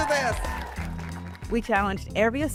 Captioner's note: crowd cheering